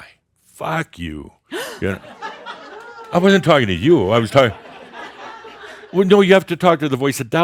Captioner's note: gasps and more chuckles